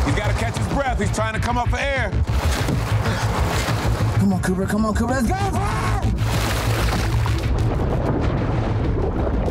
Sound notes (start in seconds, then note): 3.0 gasping; 3.2 urgent music; 5.2 water splashing